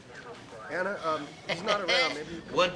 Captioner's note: laughs